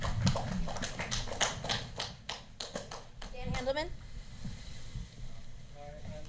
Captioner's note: applause